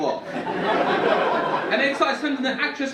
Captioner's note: audience laughing